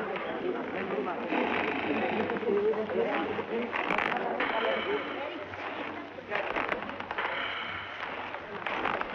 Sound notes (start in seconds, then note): 2.4 snores